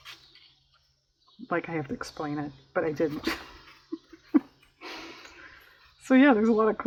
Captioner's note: laughs